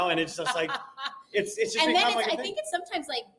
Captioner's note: laughing